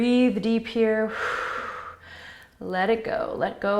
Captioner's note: exhaling